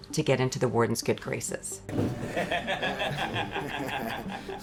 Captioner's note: laughs